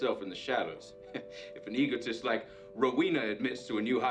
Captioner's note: chuckles